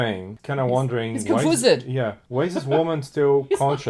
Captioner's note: laughs